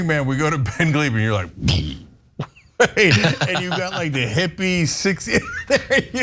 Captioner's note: laugh